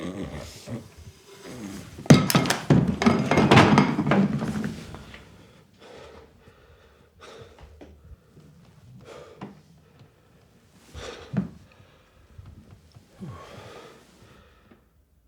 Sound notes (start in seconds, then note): 0.0 Ulysses snores; 2.1 frying pan thuds; 12.4 Ulysses sighs